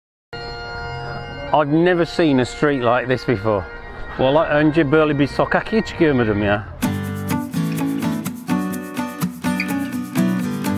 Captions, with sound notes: (bagpipes skirling) - I've never seen a street like this before. (speaks in foreign language) (casual guitar music)